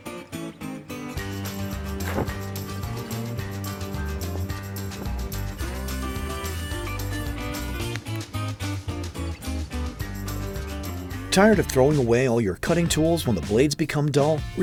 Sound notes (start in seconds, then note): 0.1 upbeat country music; 9.2 voiceover